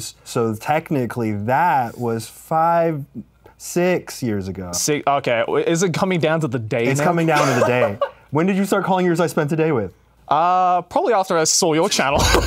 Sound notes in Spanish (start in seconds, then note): 7.0 ríe; 12.2 ríe